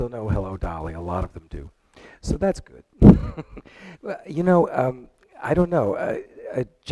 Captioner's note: chuckles